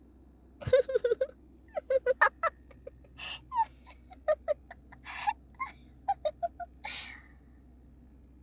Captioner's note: laugh